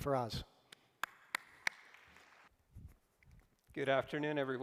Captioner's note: applause